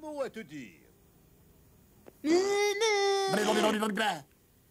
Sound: sputtering

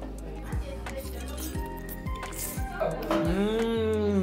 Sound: slurping

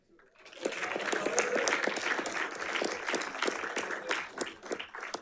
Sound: audience applauding

